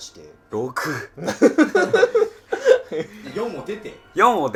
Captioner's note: laughing